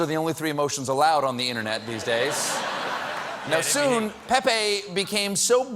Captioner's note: laughter